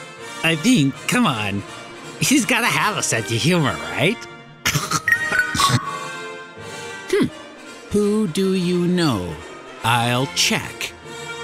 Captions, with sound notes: I mean come on, he's gotta have a sense of humor right? (more nerd laughing and a text alarm) Hmm. "WHO DO YOU KNOW? I'LL CHECK"